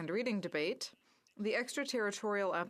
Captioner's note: speaking french